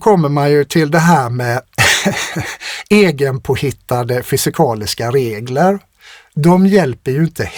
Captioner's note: laughter